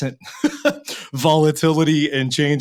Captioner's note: laughing